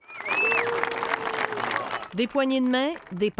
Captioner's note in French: applaudissements